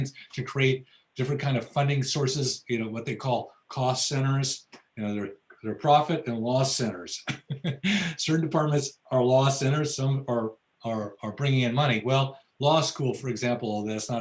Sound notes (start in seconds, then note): 7.2 laughs